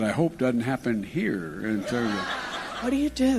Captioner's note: laughter